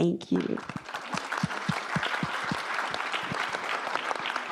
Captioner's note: audience applause